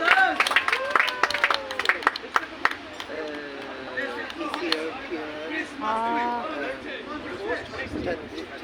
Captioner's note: applause